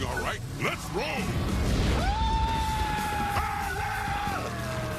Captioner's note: screaming